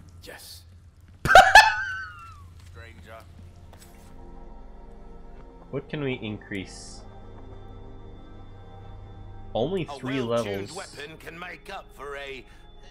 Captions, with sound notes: *Reactionary laughs* What can we increase? Only three levels-...